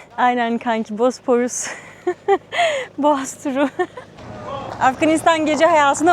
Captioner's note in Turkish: kahkaha